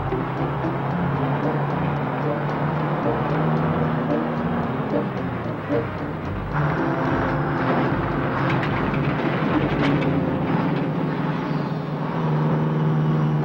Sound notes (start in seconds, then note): 0.1 engine whirring; 5.3 engine whirring; 5.3 suspenseful music